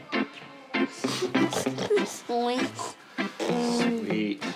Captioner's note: snorts; oinks